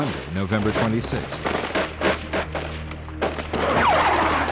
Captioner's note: gunshots